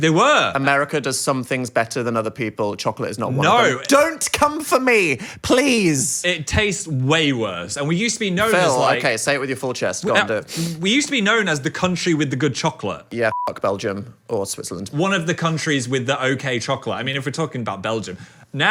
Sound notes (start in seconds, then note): 13.3 beep